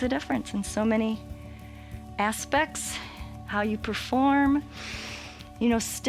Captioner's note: inhales